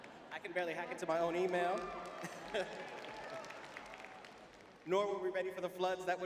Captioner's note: laughs; laughs; applause